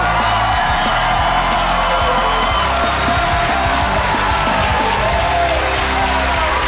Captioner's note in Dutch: gejuich en applaus